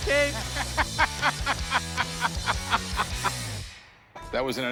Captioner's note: laughs